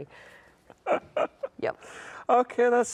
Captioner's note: laughs